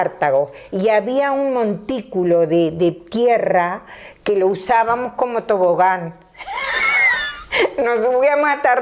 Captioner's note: she laughs